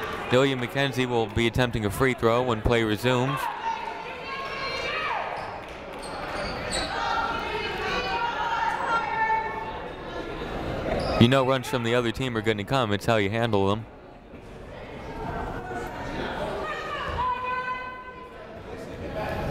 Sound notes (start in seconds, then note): 0.0 crowd clapping; 4.6 people shouting in the crowd; 15.4 people shouting in the crowd